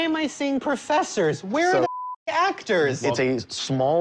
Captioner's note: beep